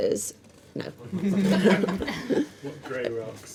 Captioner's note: laughing